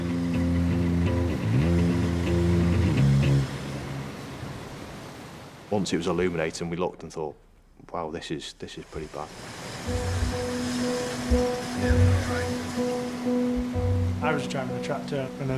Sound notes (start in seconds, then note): 0.0 intense music; 0.1 tractor droning; 8.7 water whooshing; 8.9 tractor droning; 11.3 intense music